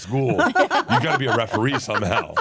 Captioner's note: laugh